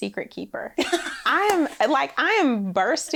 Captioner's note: laughs